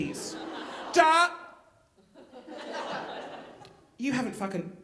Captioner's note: audience laughing